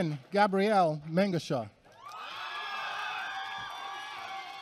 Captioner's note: applause